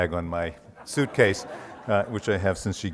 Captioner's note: audience laughs